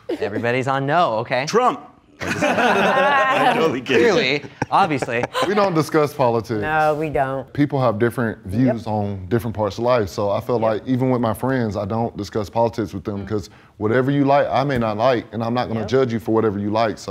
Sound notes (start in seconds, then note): 2.2 laughs